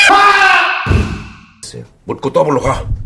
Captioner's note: bam